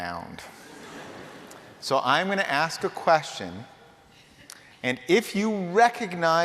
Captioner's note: laughter